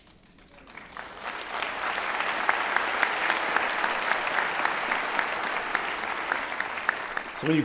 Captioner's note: applause